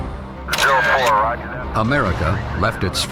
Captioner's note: radio chattering